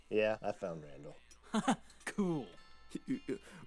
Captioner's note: chuckles